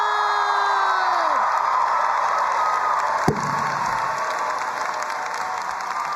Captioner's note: crowd cheering and applauding